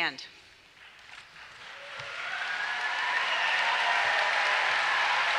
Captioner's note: applause and cheers